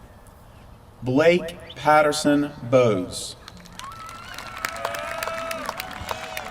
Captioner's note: applause